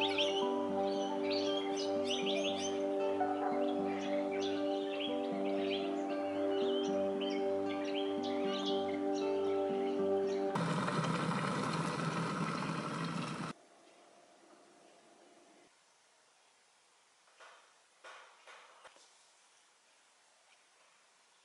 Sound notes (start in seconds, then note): 10.6 kettle boiling and milk poured into coffee